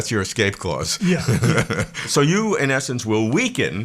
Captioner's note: laughs